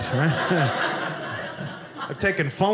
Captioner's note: audience laughing